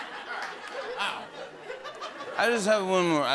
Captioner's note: laughter and applause; slurring